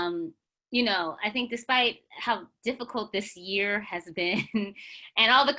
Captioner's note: chuckles